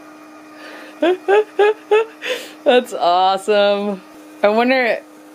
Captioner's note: laughs